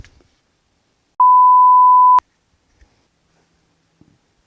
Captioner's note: beep